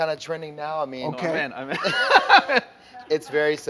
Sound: laughing

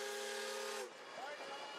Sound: steam whistle

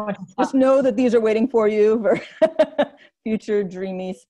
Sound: laughs

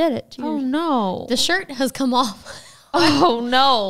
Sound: laughs

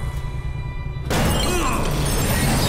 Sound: grunting

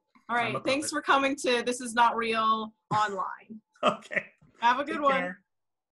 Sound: chuckles

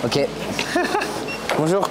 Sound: laugh

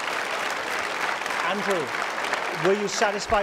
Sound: applause

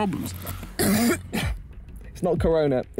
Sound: coughing

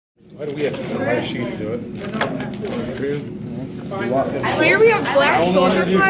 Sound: class murmuring

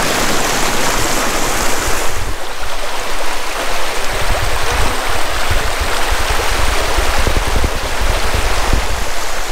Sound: waterfall sounds

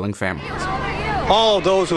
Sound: crowd chattering

